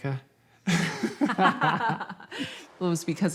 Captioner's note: laughing